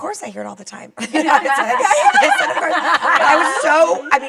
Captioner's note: laughs